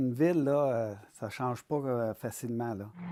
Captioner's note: speaking French